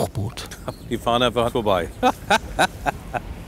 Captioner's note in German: lacht